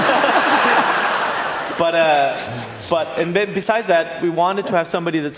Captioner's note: laughter